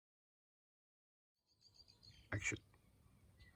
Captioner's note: birds tweeting